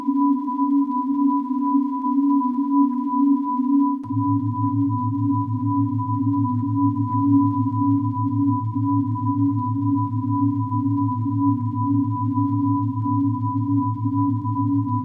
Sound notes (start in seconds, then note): 4.3 high-pitched synth tone; 4.3 low electronic humming